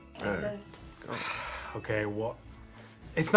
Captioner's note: sighs